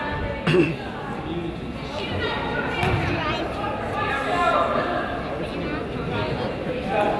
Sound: man coughs; crowd chatters

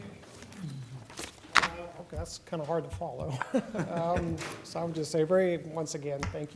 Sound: laughter

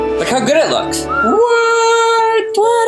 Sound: whistling

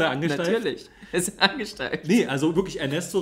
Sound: laughs

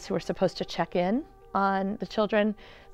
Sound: none

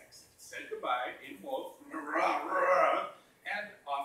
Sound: growling

